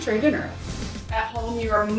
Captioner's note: screen whooshing